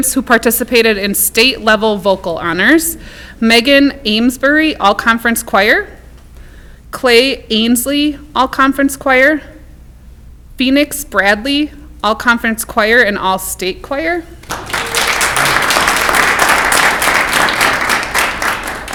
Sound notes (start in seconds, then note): 14.4 clapping